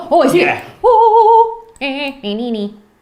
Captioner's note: hums